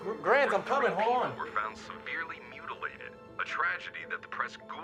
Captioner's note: radio Announcer